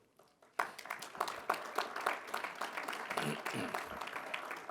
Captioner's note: audience applause